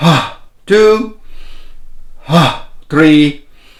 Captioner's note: inhales deeply